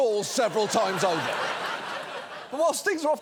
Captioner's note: audience laughs